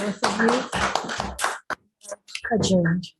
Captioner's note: audience applauding